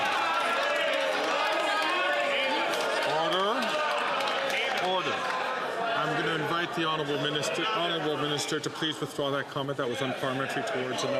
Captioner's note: some Applause